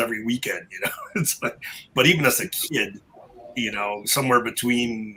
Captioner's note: chuckle